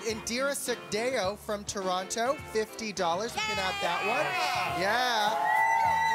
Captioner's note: cheering